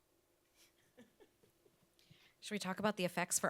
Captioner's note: chuckles